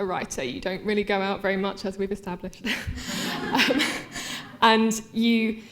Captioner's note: laughter